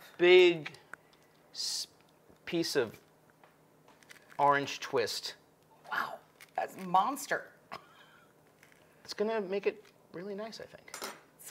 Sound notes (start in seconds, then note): 7.7 chuckles